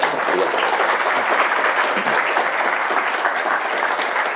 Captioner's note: applause